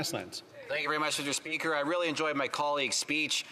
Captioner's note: speaking French